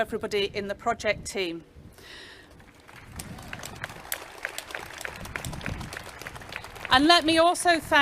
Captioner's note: clapping